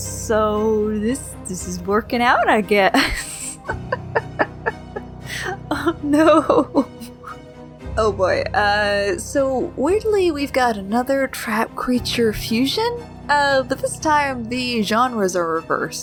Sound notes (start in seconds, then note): 2.9 laughs